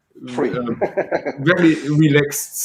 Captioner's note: laughs